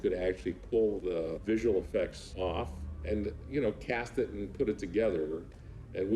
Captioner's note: none